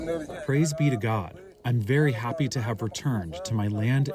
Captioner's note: through translator